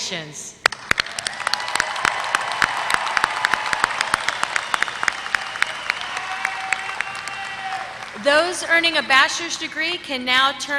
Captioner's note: applause